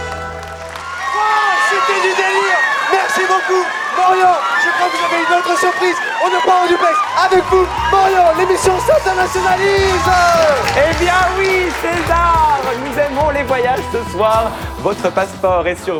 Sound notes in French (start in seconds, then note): 10.6 Aplaudissement